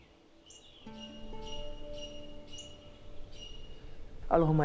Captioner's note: birds chirping